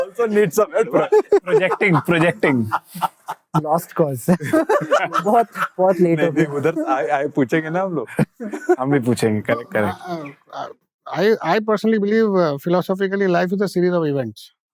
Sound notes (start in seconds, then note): 1.7 laughing